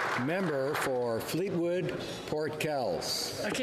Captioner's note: applause